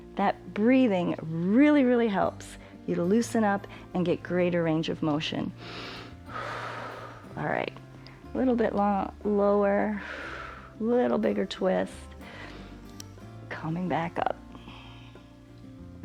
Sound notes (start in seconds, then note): 5.6 inhales and exhales; 9.9 exhales